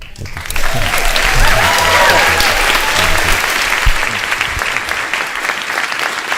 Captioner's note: audience cheering and applauding